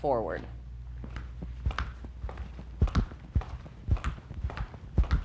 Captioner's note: footsteps clomping